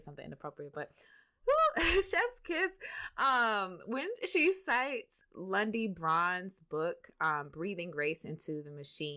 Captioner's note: laughs